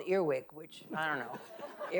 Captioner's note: audience laughing